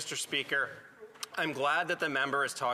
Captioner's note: speaking French